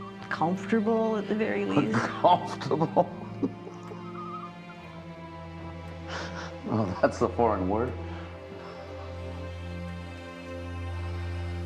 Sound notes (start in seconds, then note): 1.7 Frank laughing; 8.9 gentle music